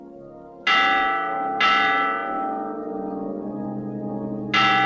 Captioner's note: church bell tolls